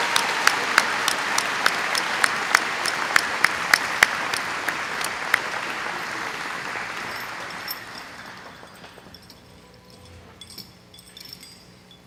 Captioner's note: audience applauding; bells ringing